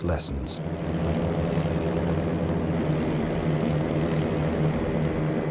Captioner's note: plane engines rumbling